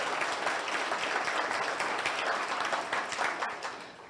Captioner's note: audience applauds